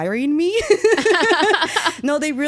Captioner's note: laughing